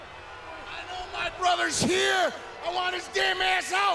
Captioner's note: crowd chatter